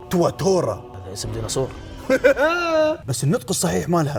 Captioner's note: laughs